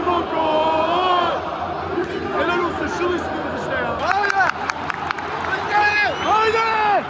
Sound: applause

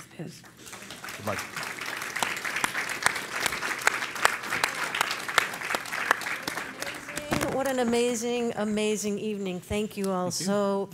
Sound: applause

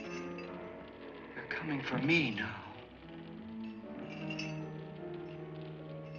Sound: chains rattling & footsteps; chains rattling

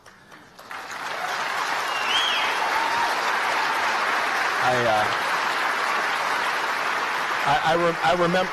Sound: applause

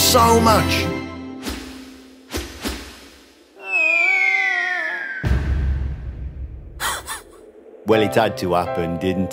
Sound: falling sound, loud bang, dog laughs

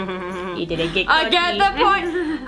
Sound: giggles

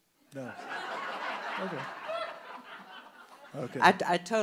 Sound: audience laughing

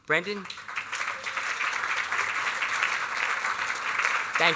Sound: applause

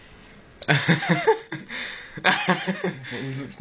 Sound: hahaha

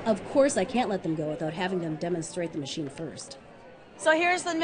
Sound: voiceover

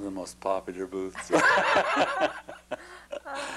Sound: laughter

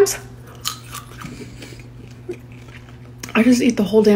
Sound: seed crunching

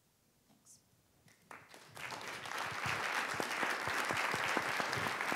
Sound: audience applauds

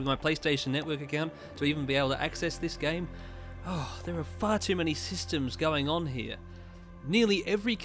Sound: sigh

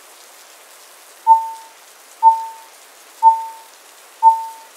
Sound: beep beep beep beep

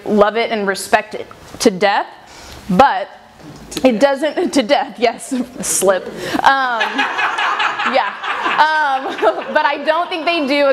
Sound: crowd laughs

